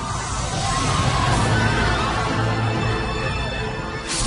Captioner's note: shouting